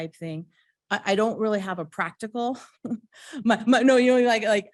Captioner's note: chuckles